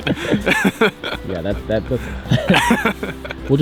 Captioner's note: both laughing